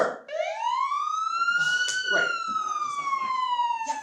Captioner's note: siren wails